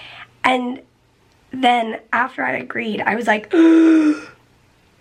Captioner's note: gasps